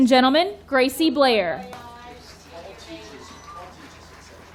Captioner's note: audience cheering